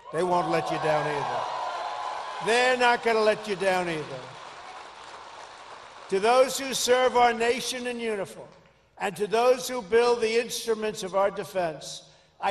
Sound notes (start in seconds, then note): 0.4 applause